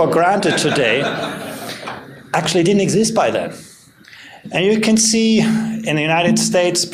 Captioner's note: laughter